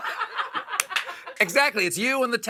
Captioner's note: laughter